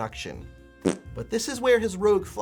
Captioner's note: fart sound